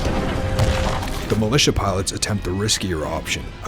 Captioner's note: voiceover